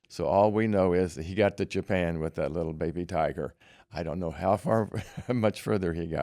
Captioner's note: laughter